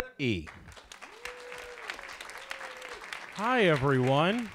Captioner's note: audience applauds